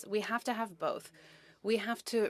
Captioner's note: speaking French